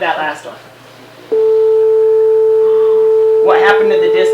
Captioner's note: high pitch humming